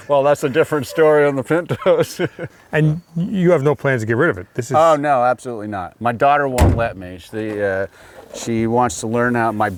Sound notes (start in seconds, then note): 1.7 laughs; 6.6 hood thudding